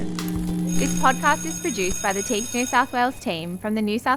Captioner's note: bell ringing